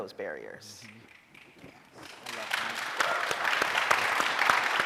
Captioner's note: audience applauding